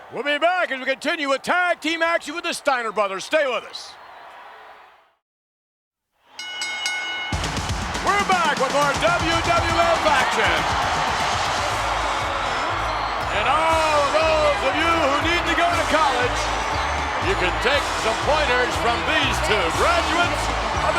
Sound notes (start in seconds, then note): 4.1 audience cheers; 11.1 audience cheers; 11.1 upbeat music